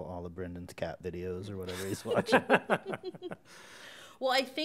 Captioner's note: chuckles